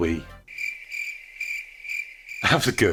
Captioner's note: crickets chirping